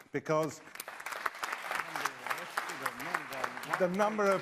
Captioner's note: applause